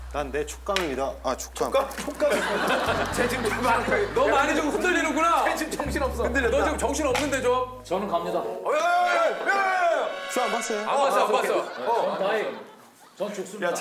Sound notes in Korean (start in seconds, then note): 2.0 ㅋㅋ